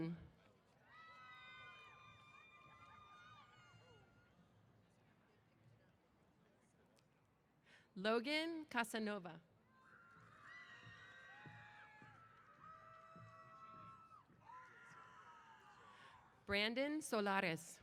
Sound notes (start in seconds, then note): 0.8 cheers; 9.8 cheers